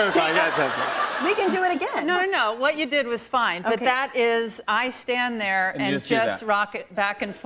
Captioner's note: laughter